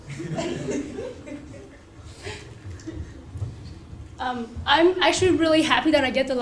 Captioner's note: laugh